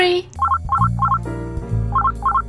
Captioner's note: phone rings